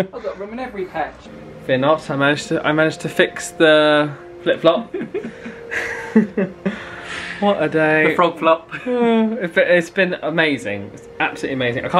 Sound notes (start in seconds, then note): 4.8 chuckling